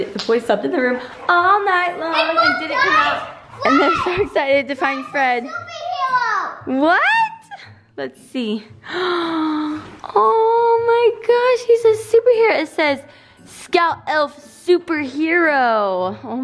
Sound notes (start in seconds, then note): 8.8 gasps